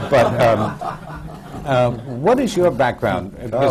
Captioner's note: laughter